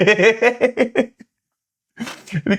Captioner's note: laughter